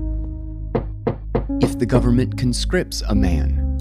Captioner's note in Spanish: golpea la puerta